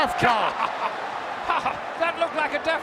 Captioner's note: chuckling